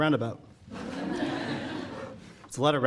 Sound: audience laughing

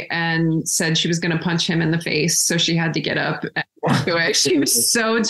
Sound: laughs

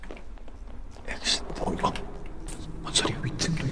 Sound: monster sound

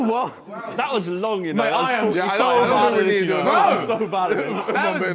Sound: men chattering

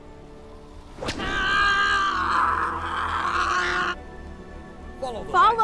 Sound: Angela screaming

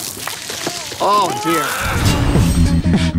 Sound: babies crying; air whooshing

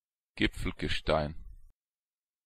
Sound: fast Pronunciation

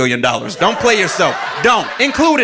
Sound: audience laughing

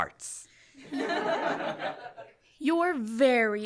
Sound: laughter

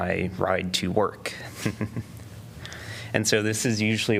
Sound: laughter

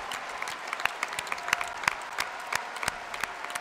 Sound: applause

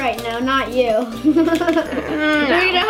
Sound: laughs

